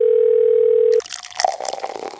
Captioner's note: phone ringing; coffee pouring